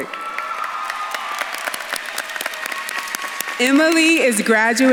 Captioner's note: audience claps and cheers